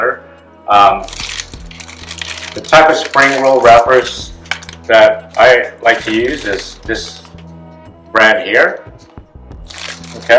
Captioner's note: plastic crinkling